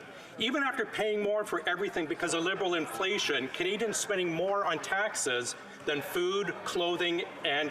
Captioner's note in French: voix de l'interprète